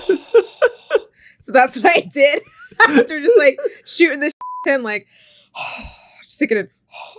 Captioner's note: laughing; beep sound